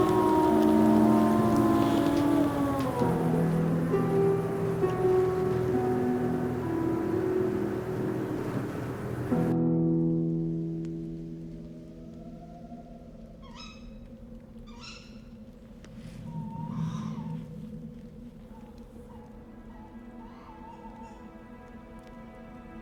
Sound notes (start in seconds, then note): 0.2 gentle instrumental music; 13.5 faint squeaking; 20.1 somber music